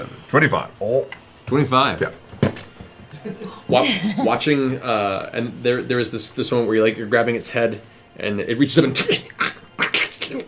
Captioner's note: frantic snarl